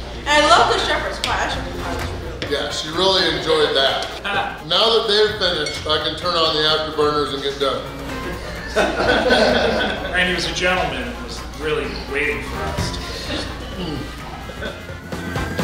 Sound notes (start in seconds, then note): 8.1 hahaha